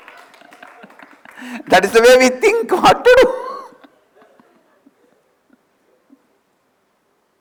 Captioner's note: laughter